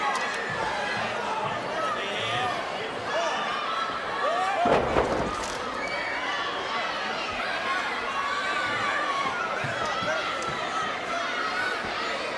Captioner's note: crowd chatter